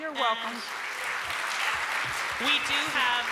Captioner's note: applause